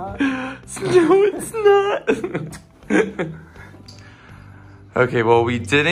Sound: laughs

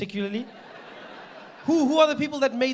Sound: audience laughing

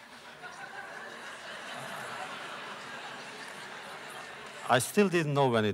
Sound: laughter

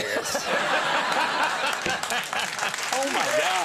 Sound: audience laughing

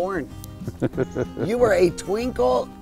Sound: laughs loudly

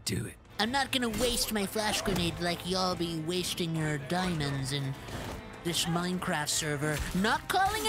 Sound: nerdy Voice

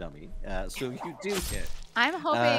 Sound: hitting sound effect

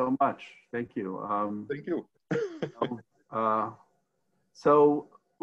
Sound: laughs

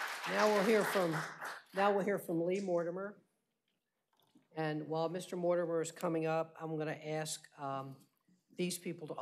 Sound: applause

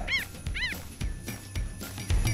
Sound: animal sounds

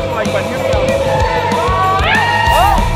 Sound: tires screeching

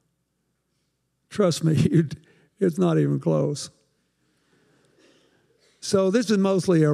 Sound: chuckles

